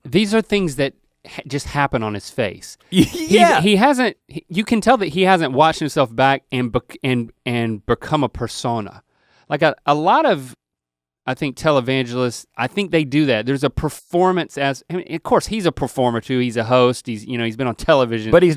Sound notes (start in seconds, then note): 2.9 laughs